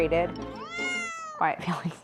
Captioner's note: Felix meows